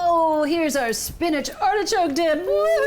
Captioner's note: none